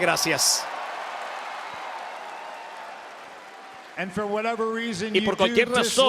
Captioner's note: applause